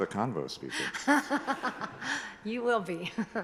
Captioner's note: and attendees chuckling